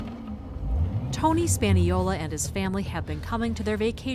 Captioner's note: voice-over